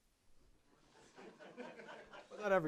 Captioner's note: laughter